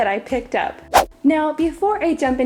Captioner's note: whooshing